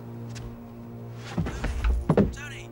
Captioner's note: Tony thudding to floor